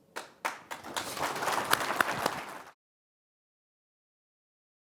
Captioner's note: audience applauding